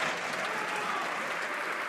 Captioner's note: some Applause